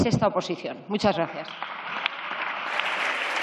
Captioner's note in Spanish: Aplausos